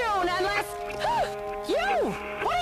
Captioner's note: gasps